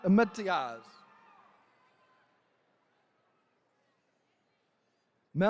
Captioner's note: attendees cheering